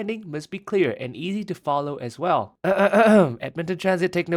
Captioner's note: clears throat